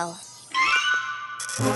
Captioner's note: poink!